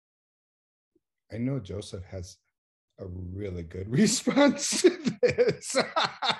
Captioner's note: laughs